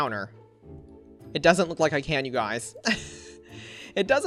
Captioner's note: laughs